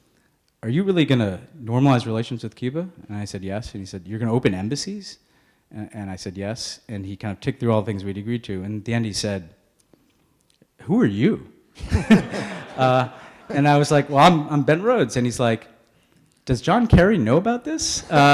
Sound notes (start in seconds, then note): 11.8 audience laughing